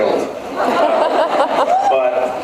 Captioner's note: laughs